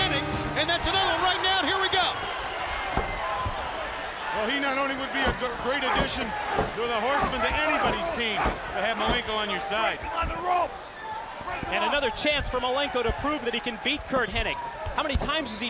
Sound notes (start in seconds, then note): 6.1 crowd chatter; 11.7 crowd chatter